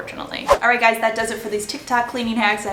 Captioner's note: whooshing